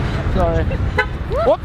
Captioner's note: horn honks